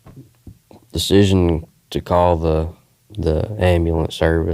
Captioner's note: none